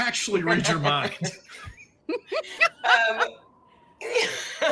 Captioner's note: all laughing